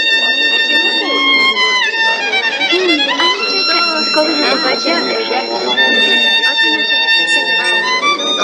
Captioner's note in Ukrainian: оплески